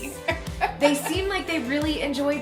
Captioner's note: laughs